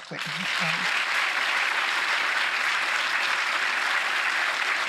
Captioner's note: audience applauding